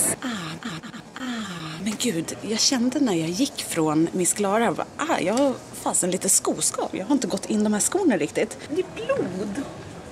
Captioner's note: aaah